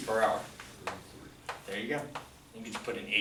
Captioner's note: voiceover